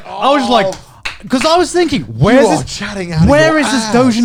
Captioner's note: clapping